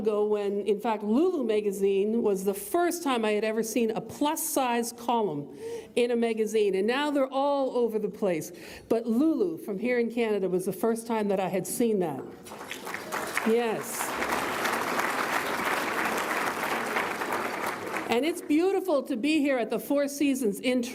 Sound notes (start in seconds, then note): 12.4 audience applauds